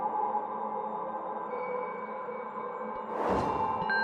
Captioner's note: crash